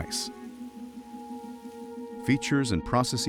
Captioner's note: crackling